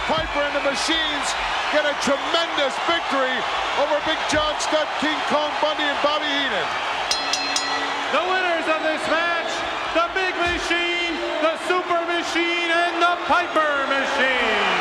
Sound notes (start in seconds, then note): 7.0 bell rings; 14.5 audience cheers